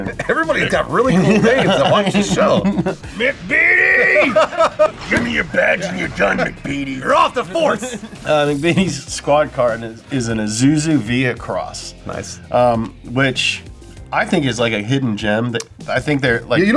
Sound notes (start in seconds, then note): 1.8 laughing drowns out speaker; 3.9 laughs loudly